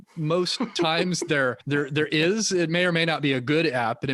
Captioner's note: laughing